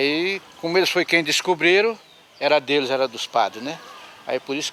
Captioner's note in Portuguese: Canto de pássaros